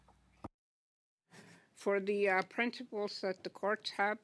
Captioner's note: speaking French